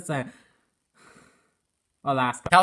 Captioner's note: awkward silence